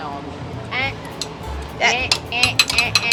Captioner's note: plates dinging